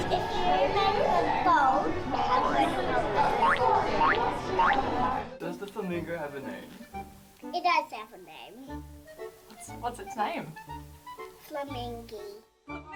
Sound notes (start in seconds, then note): 3.6 people chattering; 3.6 spring springing